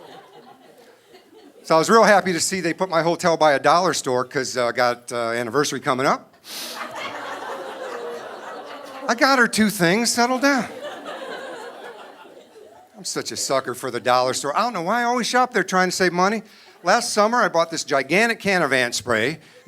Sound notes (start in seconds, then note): 6.7 audience laughing